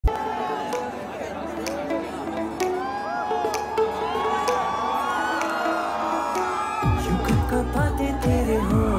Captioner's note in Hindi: चियरिंग